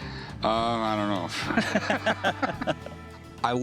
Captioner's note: laughter